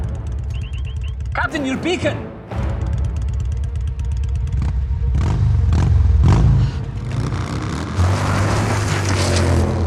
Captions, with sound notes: Captain, your beacon! (ENGINE REVVING)